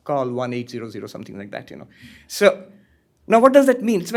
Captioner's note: none